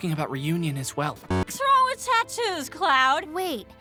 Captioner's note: slurred